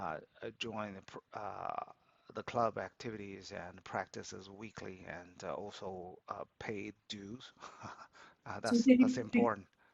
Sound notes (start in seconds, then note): 7.2 laughs